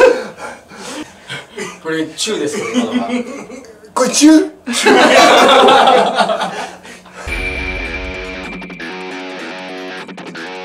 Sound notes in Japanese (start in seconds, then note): 4.6 笑い; 7.2 かっこいいbgm